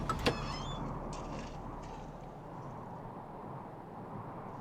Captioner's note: wind blowing